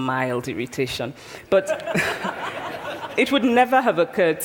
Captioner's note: laughter